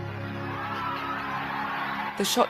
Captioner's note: crowd starts cheering